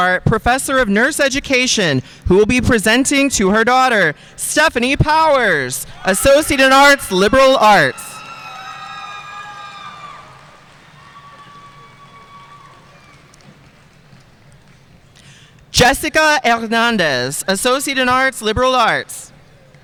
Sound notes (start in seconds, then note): 8.4 audience cheering and applauding